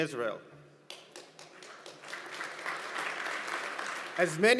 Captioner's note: audience applauds